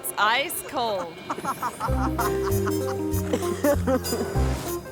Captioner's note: person laughing